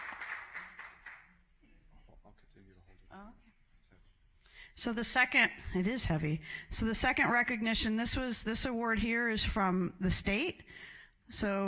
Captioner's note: applause